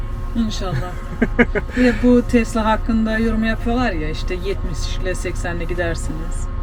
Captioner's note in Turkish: kahkaha